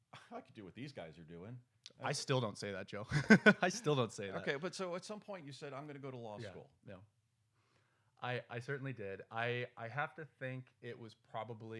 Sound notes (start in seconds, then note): 3.1 laughs